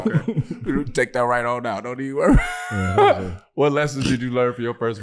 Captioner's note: laughing